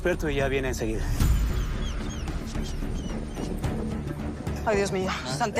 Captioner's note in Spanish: Gimoteos del perro